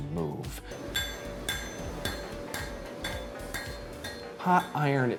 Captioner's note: hammer banging